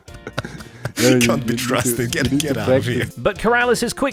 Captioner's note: chuckles; laughing